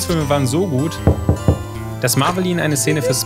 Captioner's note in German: Knock Knock